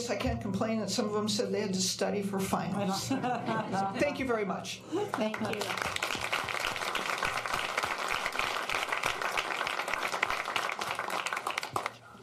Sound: applause

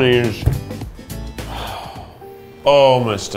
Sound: sighs

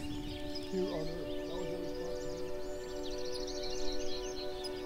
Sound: birdsong

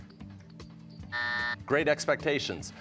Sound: buzzer

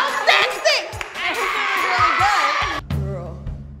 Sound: yelling

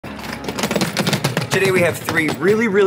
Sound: suitcase rumbling

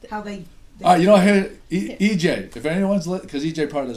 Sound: voiceover

